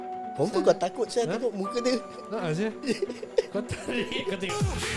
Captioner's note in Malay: ketawa